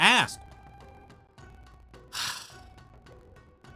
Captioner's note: sighs